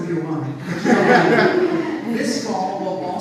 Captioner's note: audience laughs